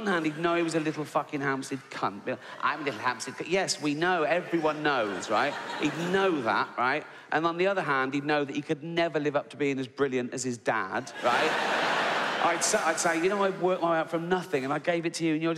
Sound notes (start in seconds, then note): 11.1 audience laughs